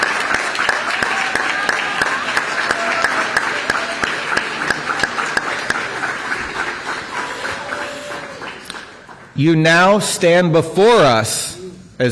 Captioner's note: applause